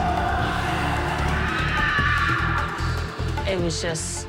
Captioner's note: screaming